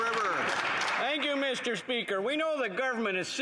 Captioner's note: applause